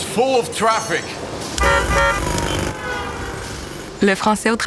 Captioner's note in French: bruits d'automobiles et de travaux routiers